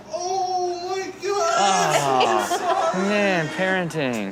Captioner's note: baby cries